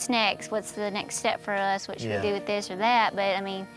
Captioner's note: none